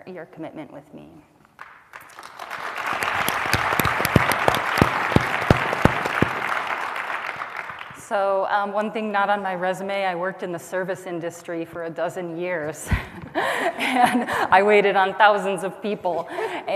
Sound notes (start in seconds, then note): 1.5 applause